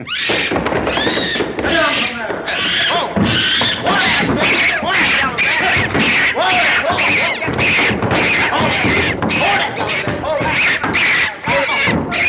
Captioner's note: monkey squeaks; horse neighs nervously